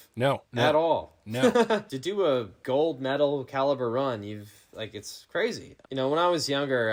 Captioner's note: laughing